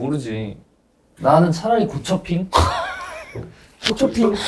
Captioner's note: chuckling